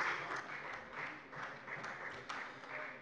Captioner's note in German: Beifall bei der FDP